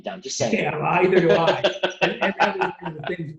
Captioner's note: laughs gently